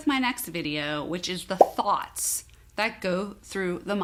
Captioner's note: bubble popping